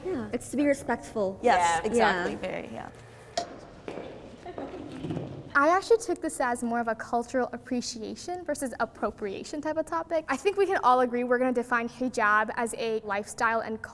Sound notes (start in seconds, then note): 3.5 timer taps; 4.3 footsteps approaching